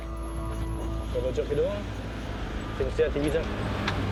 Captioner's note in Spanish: Audio hablado en francés